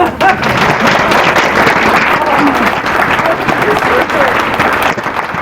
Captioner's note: applause